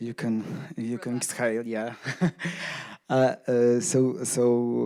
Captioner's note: chuckles